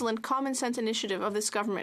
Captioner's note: speaking French